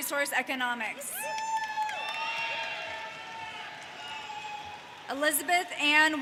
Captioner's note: audience cheers